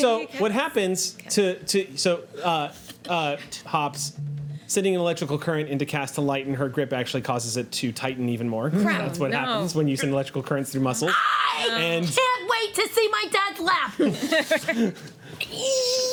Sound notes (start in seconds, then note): 11.0 shouts; 13.9 laughing